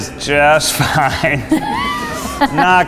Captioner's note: laughs